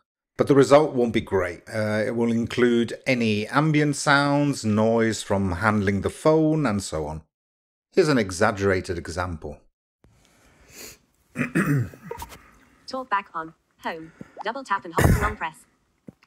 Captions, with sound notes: but the result won't be great... it will include any ambient sounds, noise from handling the phone, and so on. Here's an exaggerated example: [sound of clearing throat, room noise] TalkBack on Home, double tap and hold [cough] to long press.